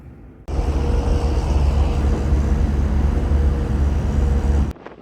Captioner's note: horn blasting